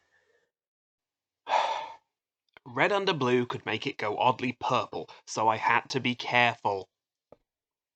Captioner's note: sigh